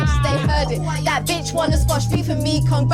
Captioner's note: laughing